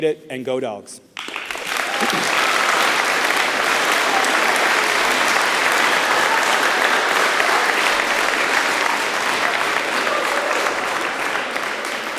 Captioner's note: applause